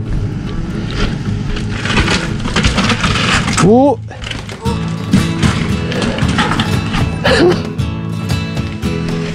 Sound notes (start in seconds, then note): 1.0 bike scraping; 6.7 laugh